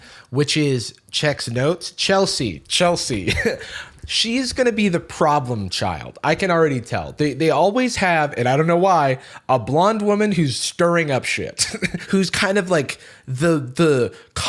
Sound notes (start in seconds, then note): 3.1 laughs; 11.6 chuckles